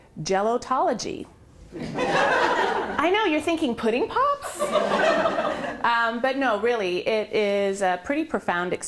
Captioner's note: laughter